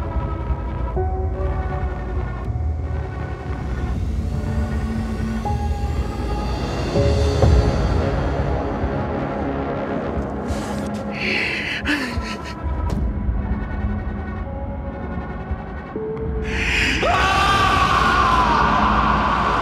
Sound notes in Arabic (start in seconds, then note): 16.4 صراخ